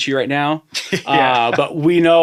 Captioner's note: laughing